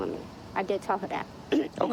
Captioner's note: clearing throat